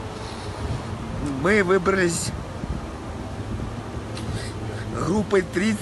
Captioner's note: sobbing